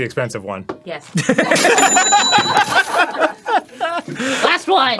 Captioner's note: both laughing